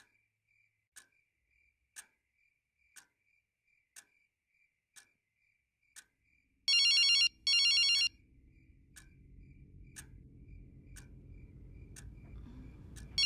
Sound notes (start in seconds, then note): 6.6 two rings from a flip phone; 8.1 clock ticks. Crickets chirp